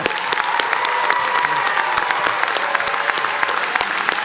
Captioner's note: cheers and applause